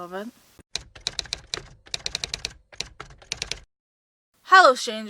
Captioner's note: typewriter typing